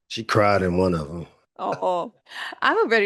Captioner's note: chuckling